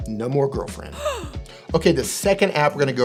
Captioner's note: gasp